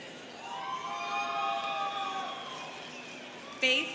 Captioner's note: students cheering